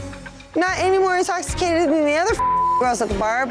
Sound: beeping

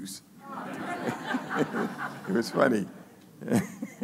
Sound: laughing

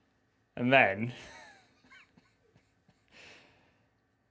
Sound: laughs

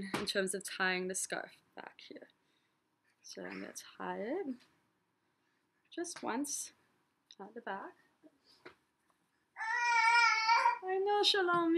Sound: baby cries out

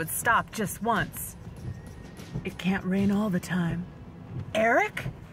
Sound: different, smoky voice

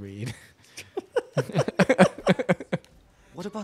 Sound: both laughing

